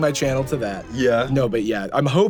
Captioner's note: machine whirring down